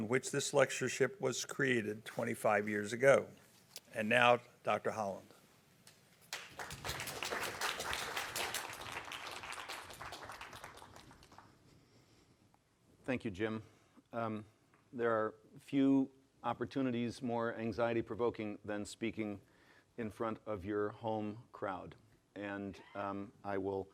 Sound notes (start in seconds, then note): 6.2 applause